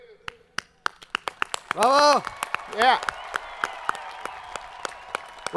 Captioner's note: students cheering